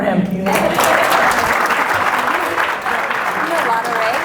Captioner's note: audience applause